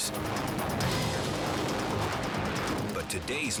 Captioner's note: air swooshing